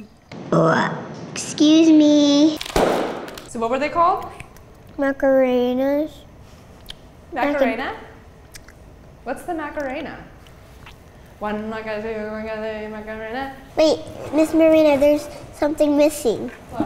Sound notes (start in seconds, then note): 0.3 burp; 2.6 pop